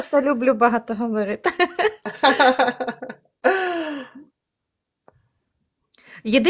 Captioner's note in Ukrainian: сміх